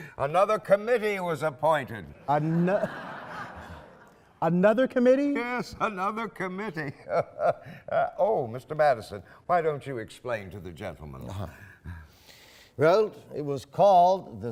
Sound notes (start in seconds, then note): 2.3 laughing; 6.9 laughing